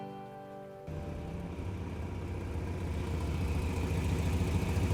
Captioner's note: engine rumbling